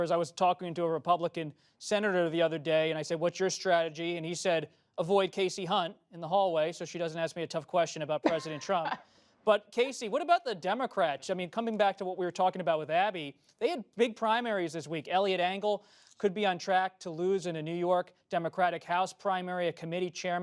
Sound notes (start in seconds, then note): 8.2 laughter